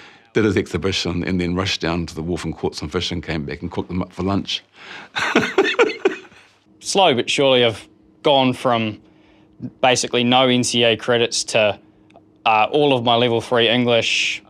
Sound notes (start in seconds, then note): 5.1 laughs